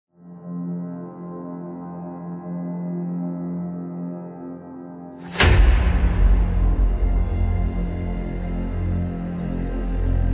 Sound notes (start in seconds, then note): 0.0 intense music plays; 5.3 dramatic boom